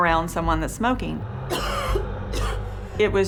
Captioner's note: coughing